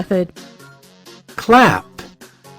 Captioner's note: vỗ tay